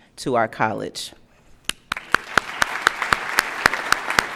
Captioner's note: applause